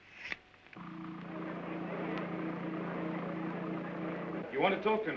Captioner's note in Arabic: صوت طنين وثرثرة خافتة